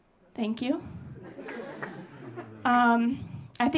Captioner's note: audience laughing